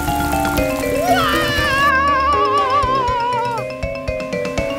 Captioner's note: Mario screams in agony